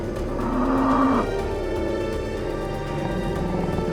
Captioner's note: bison grunts